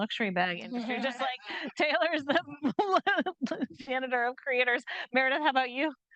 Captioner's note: chuckling